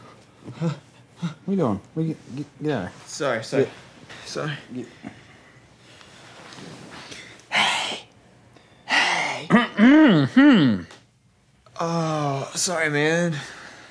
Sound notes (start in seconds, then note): 7.4 whisper; 9.4 clears throat